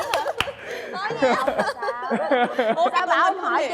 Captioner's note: applause; laughter